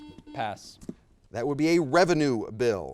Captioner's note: buzzer beeps